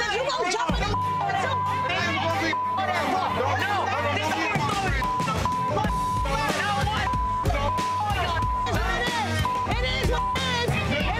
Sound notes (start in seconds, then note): 1.9 beeping; 2.4 beeping, shouting; 7.7 beeping